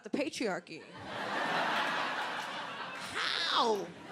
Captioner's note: crowd laughing